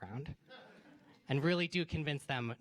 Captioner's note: laughter